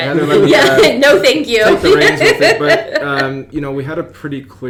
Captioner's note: laughs